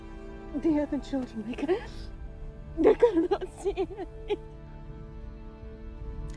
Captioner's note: sobbing